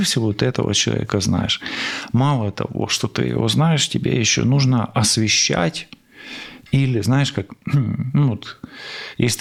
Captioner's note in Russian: откашливается